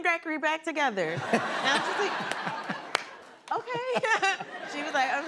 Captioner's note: laughter